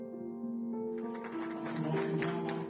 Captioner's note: applause